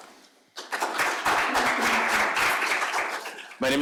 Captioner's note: applause